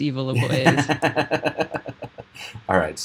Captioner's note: laughing